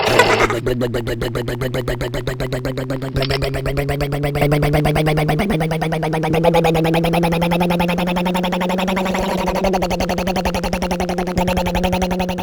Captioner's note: rumbling motor